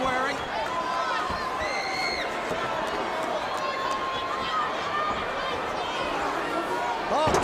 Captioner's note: crowd cheering